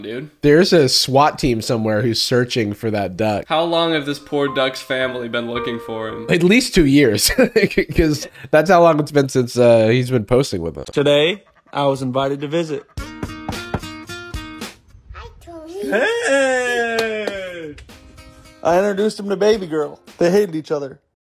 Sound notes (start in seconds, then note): 7.2 laughs; 12.9 knocking